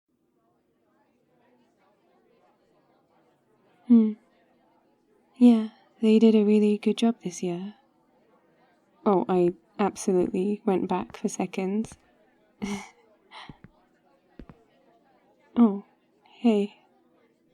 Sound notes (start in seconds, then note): 0.0 party ambience; 12.6 laughs